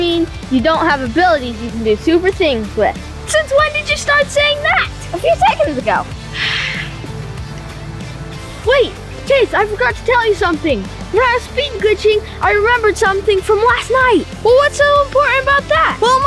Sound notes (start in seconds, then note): 6.3 sigh